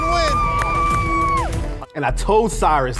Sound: everyone cheering

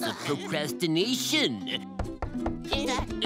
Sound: knocking

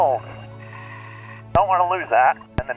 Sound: deep breathing

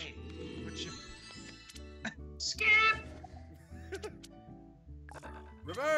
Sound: laugh

